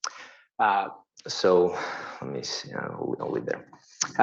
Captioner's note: murmurs